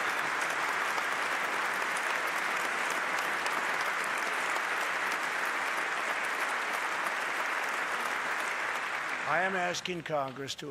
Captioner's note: applause